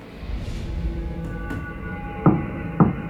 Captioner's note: tapping